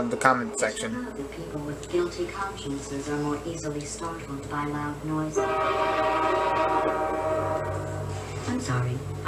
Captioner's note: train Horn